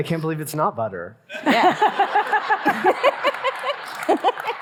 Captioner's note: audience laughing